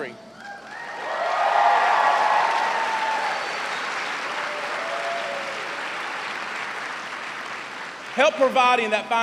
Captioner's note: cheers and applause